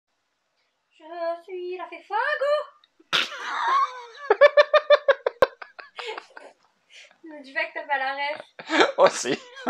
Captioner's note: laughs